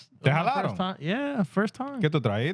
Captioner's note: speaking Spanish